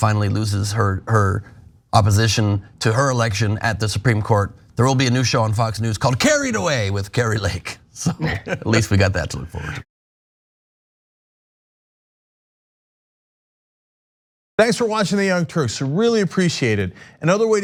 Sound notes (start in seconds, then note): 8.0 laugh